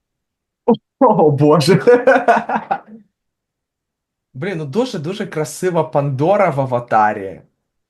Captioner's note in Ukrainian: сміється